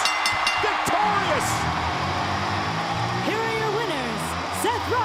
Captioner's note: applause